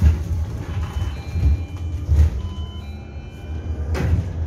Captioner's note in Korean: 하차벨 소리